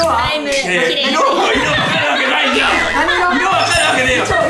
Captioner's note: laughing